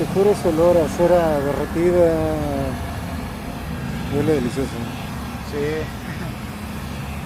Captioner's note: laugh